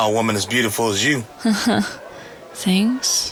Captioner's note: laughs nervously